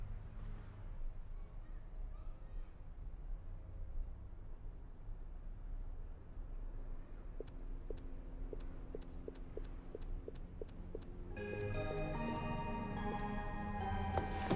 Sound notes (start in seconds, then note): 8.4 phone ticking; 11.2 gentle music